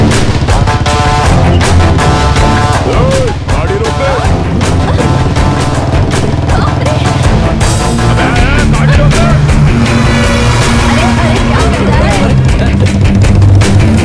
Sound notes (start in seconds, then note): 6.4 ambulance Approaching